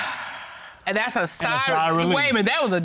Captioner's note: sighing with relief